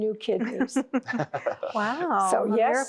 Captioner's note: laughter